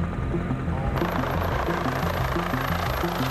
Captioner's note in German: Lautes Rattern